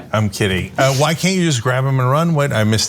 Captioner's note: laugh